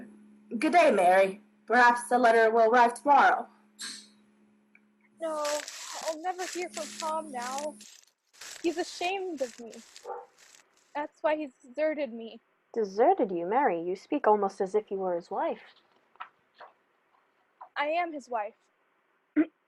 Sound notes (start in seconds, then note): 5.2 footsteps on dirt